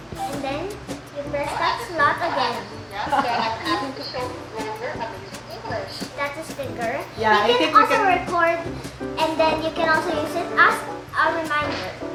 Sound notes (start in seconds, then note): 2.9 Recorded voice plays back through the Grolier Pen